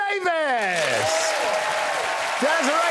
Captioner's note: crowd cheers